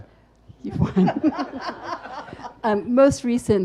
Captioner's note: laughs; audience laughs